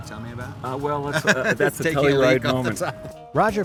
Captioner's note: laughing